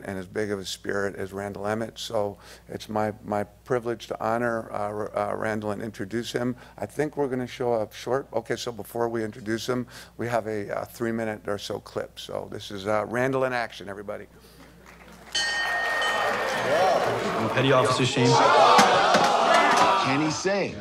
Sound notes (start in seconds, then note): 14.7 applause; 15.3 bell clangs; 19.0 yelling